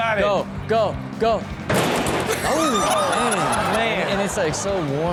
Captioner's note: all laugh